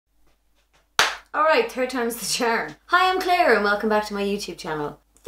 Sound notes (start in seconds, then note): 1.0 clapping